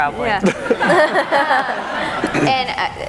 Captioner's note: laughing